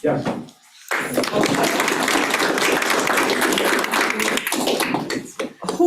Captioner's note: attendees clapping